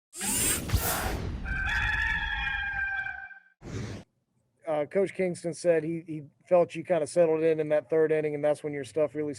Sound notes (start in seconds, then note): 0.2 whoosh; 1.4 rooster crowing; 3.6 whoosh